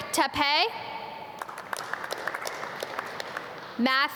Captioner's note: audience clap